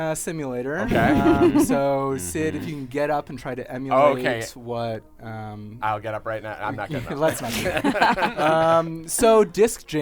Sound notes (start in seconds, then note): 6.8 laughter